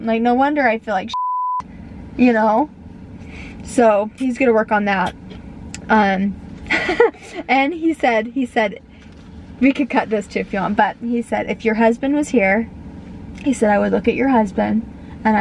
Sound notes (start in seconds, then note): 6.6 laughing